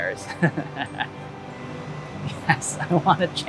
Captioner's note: laughs